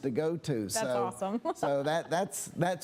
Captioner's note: laughs